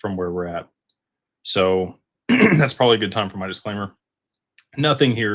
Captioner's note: clears throat